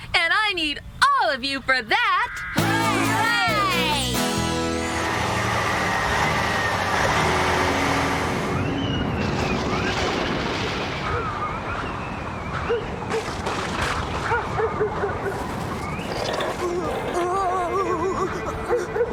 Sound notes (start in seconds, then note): 5.7 engine Running; 8.5 thunder Rumbling; 10.8 wind Whistling; 14.2 dog Barking